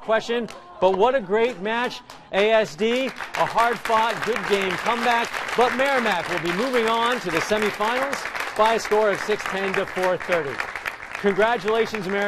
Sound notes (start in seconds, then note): 1.4 applause